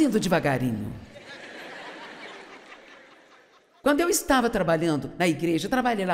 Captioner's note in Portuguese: audiência ri